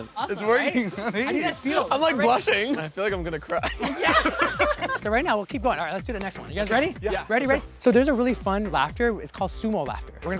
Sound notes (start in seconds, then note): 3.5 laughing